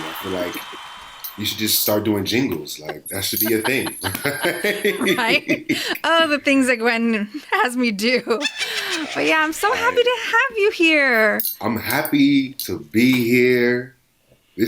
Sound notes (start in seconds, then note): 4.0 sci-fi computer typing sound; 8.3 evil laugh